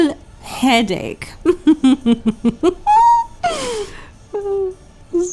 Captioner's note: fake, over-the-top laughter